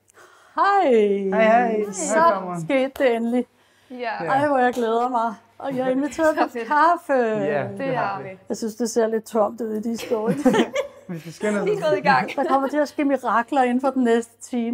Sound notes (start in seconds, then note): 10.0 laughter